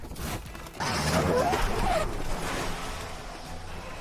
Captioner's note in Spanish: chirrido de frenos